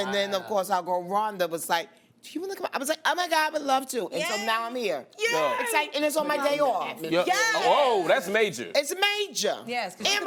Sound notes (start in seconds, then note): none